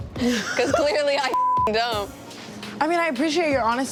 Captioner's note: laughs; beep